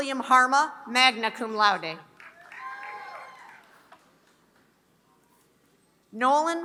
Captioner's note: applause